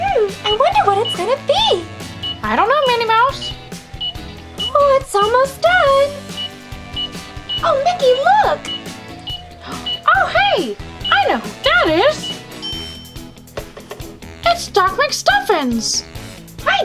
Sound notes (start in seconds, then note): 0.0 timer beeps; 6.9 timer beeps; 12.1 bell dings